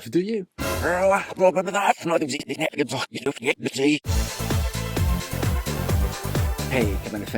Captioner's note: speaks in tongues